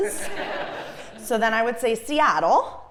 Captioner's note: laugh